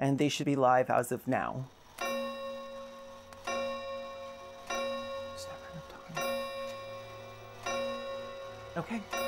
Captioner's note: grandfather clock chimes